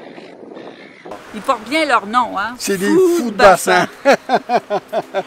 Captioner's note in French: rire